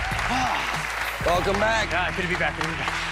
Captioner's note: cheers and applause; sighs